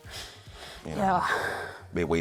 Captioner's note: sighing